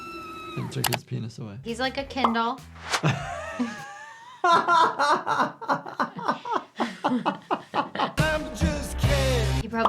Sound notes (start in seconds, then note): 2.9 doctor laughs